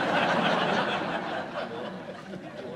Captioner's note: laughs